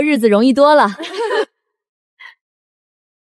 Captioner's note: chuckles